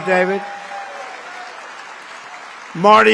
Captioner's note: applause